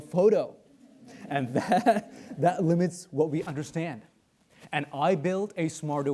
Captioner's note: chuckles